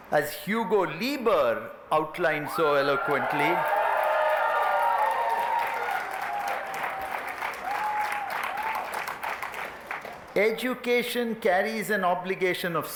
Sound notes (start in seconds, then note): 2.9 applause, cheering